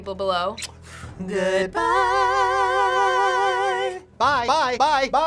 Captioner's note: blowing kisses